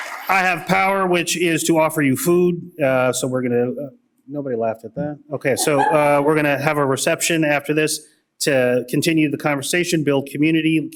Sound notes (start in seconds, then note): 5.5 laughter